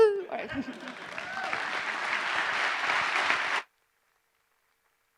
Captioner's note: applause